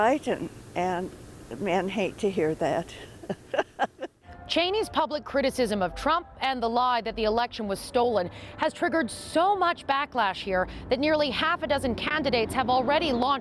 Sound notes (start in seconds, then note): 4.8 laughter